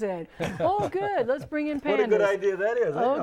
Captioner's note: laughing